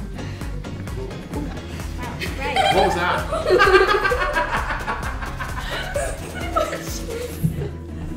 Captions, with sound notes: - What was that? (laughing)